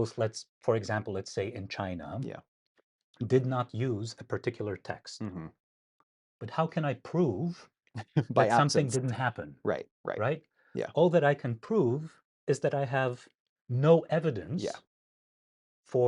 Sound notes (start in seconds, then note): 8.0 laughing